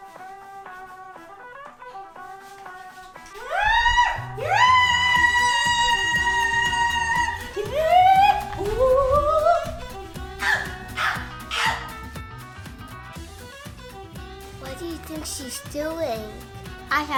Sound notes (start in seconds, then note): 3.4 shrieks; 7.9 barks repeatedly